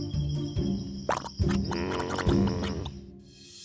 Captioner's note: quicksand bubbles